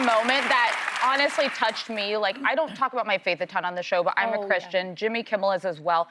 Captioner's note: applause